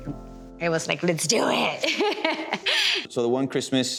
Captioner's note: laughing